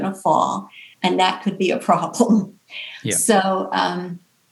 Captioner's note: chuckles